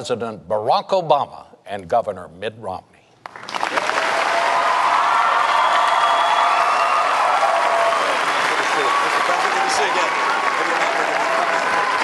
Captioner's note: sustained cheers, applause